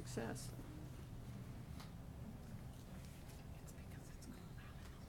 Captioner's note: people chattering